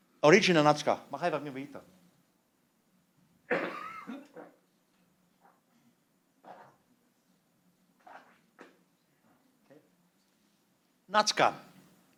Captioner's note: non-english speech